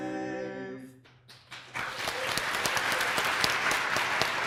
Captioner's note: applause